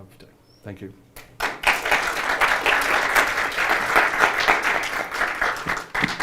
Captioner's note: applause